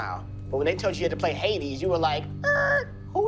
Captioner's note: makes screeching sound